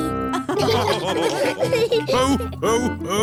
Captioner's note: all laughing